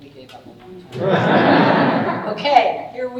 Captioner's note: audience laughing